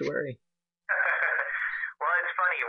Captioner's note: laughing